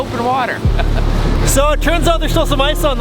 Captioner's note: laughs